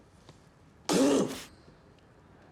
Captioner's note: spits